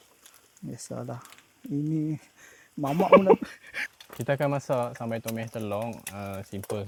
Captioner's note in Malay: ketawa